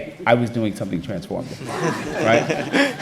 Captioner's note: laughter